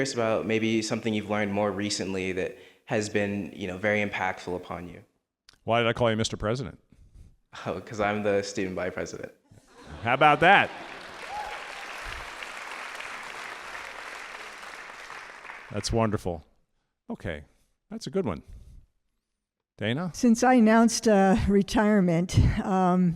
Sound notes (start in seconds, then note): 9.6 all laughing; 11.6 audience applauding